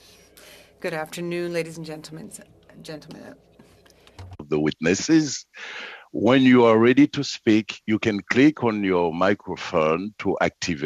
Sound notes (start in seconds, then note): 5.8 speaking FRENCH